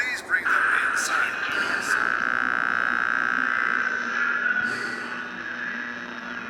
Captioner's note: radio interference buzzes